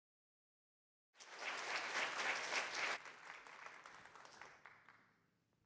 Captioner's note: applause